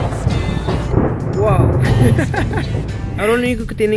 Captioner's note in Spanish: Worried laughter